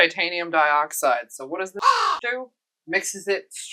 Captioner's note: caw